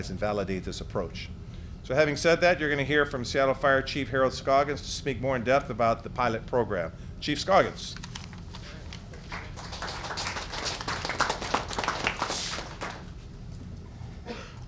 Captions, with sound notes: and validate this approach. So, having said that, you're going to hear from Seattle Fire Chief Harold Scoggins to speak more in depth about the pilot program. Chief Scoggins. [ Applause ]